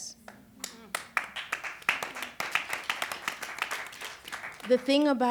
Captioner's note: applause